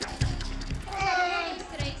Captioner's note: counting down in Portuguese